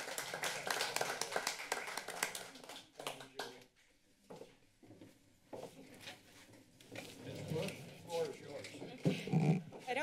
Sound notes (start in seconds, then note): 0.0 applause; 4.2 footsteps